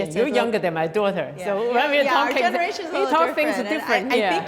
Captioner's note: women chattering